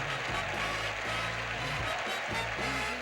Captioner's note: audience applauding